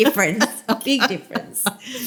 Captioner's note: laughter